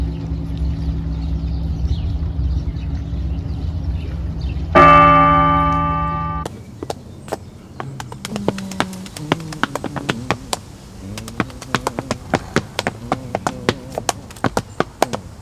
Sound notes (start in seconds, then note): 4.7 bell tolls; 7.7 clapping, shuffling, body percussion; 9.8 humming